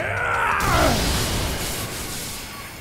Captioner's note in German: Angestrengte Laute; Sausende Geräusche